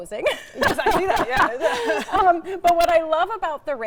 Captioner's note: both laughing